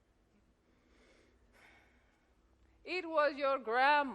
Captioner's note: Hatshepsut sighs